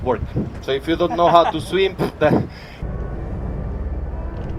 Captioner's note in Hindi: हँसते हुए